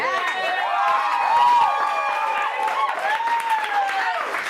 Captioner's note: audience cheering